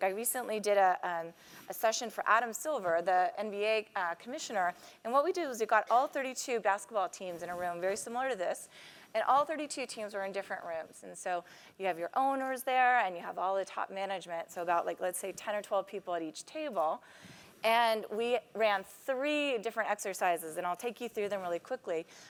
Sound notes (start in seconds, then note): none